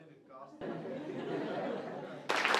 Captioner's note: laughter; applause